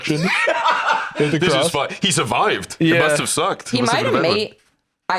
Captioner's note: laughs